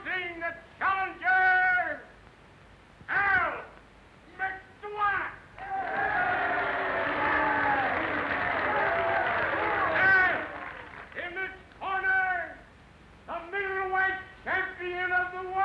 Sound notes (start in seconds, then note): 7.3 crowd cheering and booing